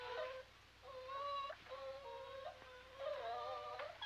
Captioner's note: puppies whining